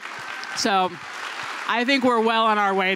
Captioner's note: applause